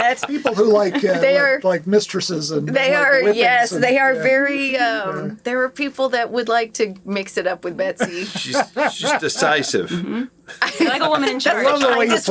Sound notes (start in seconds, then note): 8.0 laughing